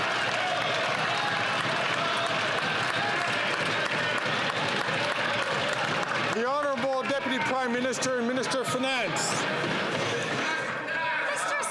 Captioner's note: some Applause